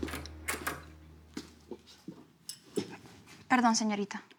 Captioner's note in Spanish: ruido al abrir puerta